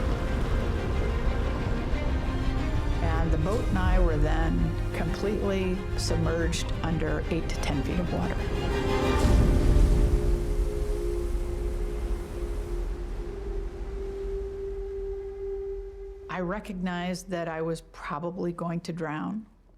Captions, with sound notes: [waterfall sounds] [music intensifying] and the boat and I were then completely submerged under 8 to 10 feet of water. [waterfall sounds] I recognized that I was probably going to drown.